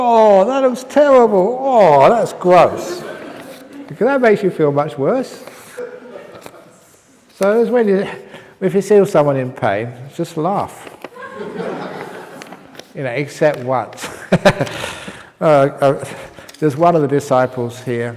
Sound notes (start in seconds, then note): 11.1 laughs; 14.0 chuckle